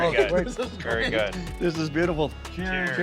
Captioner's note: laughing